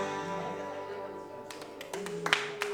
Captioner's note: audience clapping